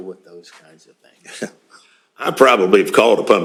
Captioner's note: chuckles